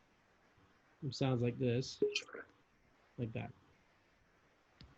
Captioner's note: chimes